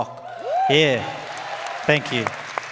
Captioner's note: audience cheers and applauds